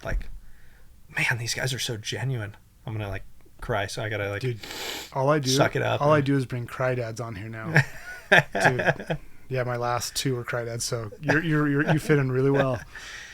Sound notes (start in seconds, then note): 4.6 inhales; 7.6 laughs